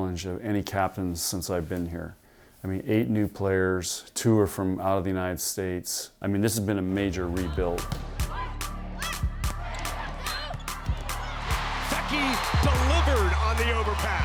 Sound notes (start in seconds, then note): 8.0 crowd cheering; 8.4 girls grunting